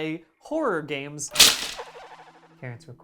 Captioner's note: loud chopping